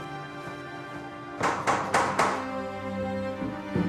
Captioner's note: knocking at door